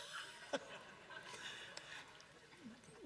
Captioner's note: laughs